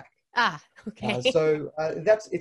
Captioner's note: laughs